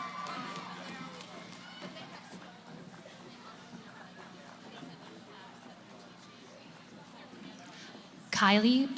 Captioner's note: cheering; background conversations